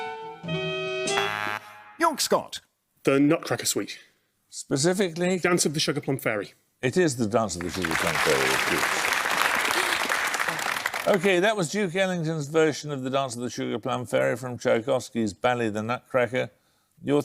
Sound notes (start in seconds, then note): 0.5 buzzer; 9.3 applause